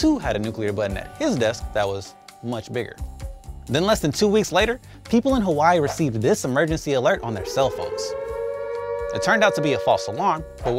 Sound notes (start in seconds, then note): 7.2 siren wailing